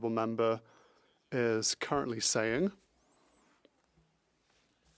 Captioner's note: speaking French